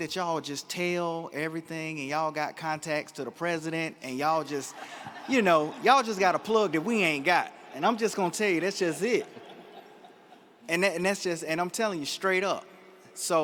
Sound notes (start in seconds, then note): 4.5 audience laughs